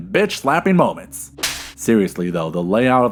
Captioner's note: slap